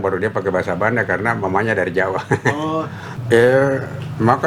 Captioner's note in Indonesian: tertawa